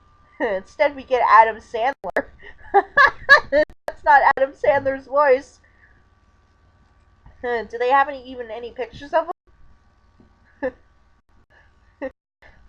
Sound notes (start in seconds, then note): 2.6 laughing